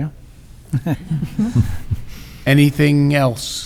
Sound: quiet laughter

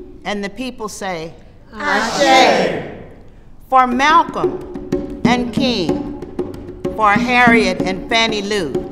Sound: voices respond

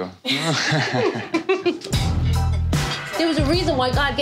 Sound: chuckling

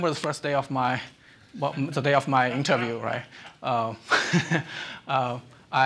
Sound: chuckles

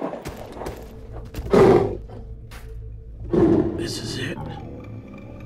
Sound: creature growling

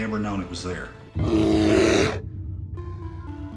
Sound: animal growling

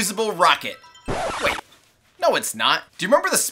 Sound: record scratching

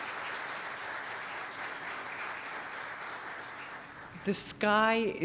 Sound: applause

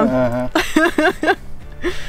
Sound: laughs

